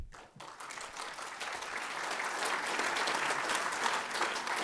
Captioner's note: audience applauding